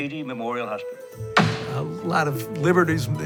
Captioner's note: gavel pounds